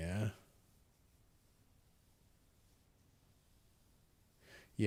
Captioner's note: silence